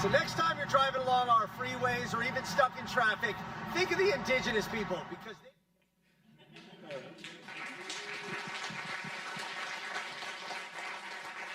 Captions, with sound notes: So next time you're driving along our freeways, or even stuck in traffic, think of the Indigenous people, because they... (audience clapping)